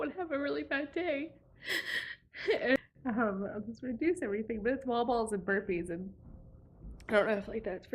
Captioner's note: deep breath